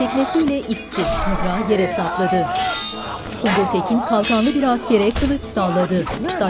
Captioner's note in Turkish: Dövüş sesleri